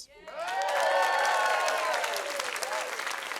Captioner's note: cheering, applause